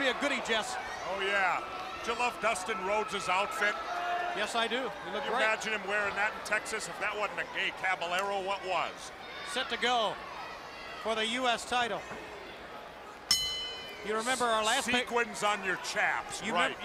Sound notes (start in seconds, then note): 13.3 bell ringing